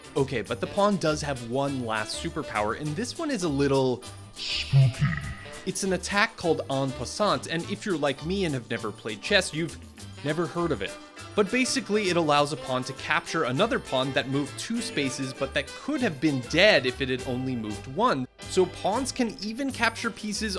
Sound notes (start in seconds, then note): 4.7 ghostly voice